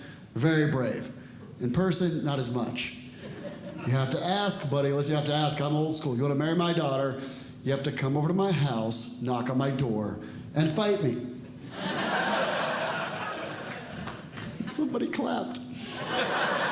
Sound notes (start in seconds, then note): 11.6 audience Laughing